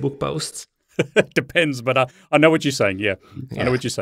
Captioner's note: laughs